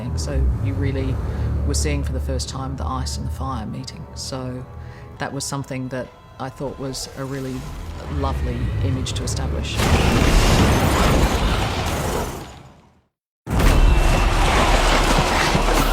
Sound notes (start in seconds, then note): 9.6 snarling; 9.8 fire roaring